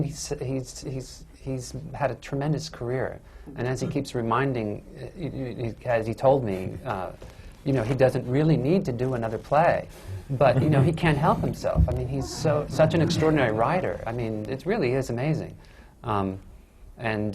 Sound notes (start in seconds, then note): 10.1 laughs; 10.3 laughter